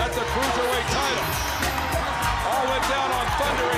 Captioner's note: crowd cheering